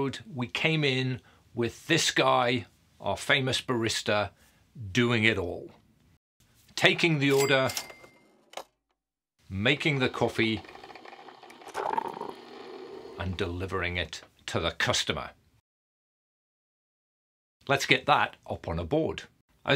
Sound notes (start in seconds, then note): 7.2 cash register ringing; 9.8 coffee whirring